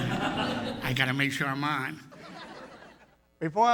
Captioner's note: laughter; laughter